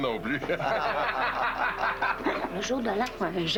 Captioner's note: Rires